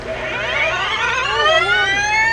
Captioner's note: engine revving